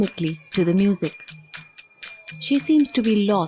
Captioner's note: bell jingling